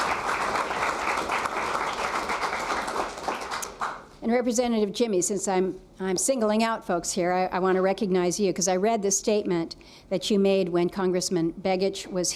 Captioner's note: applause